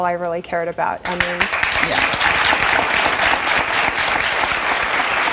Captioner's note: audience applause